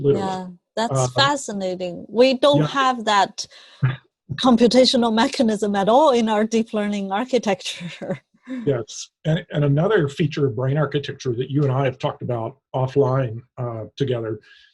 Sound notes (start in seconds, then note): 3.8 laughs; 8.6 laughs